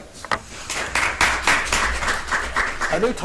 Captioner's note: audience applauds